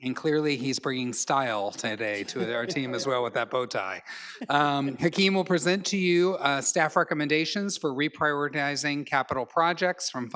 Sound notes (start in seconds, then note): 2.1 colleagues laugh